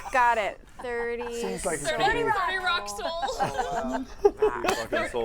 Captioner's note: giggles